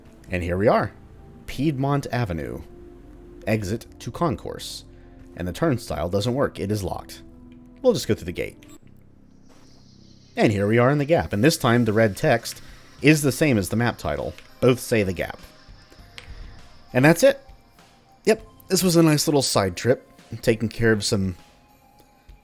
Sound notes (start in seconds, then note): 9.3 gate squeaks